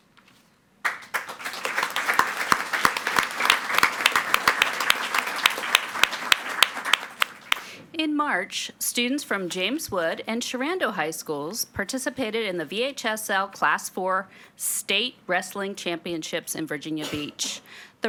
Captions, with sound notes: (audience clapping) In March, students from James Wood and Sherando High Schools participated in the VHSL Class 4 State Wrestling Championships in Virginia Beach.